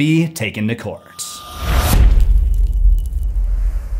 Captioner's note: impact